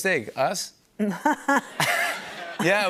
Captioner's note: laughter